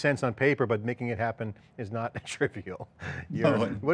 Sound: laughs

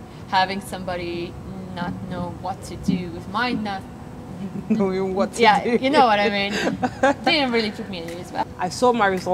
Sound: student 1: laughing

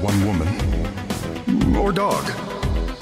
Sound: echoing

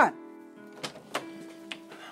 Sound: door opens

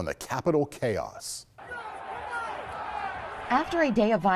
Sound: crowd shouting

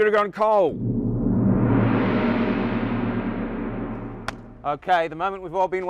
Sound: gong chiming

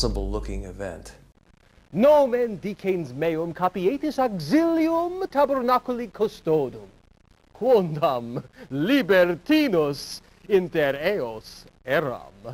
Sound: speaking Latin

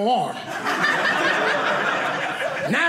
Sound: audience laughing

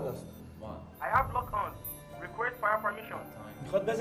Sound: the english speech of Iraqi pilots

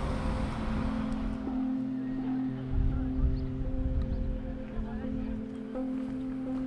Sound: tourist group talking in the distance

